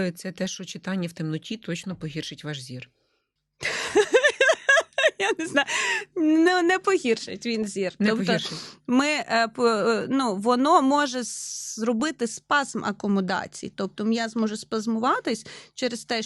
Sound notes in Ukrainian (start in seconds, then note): 3.7 сміх